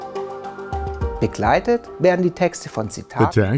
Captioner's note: non-english speech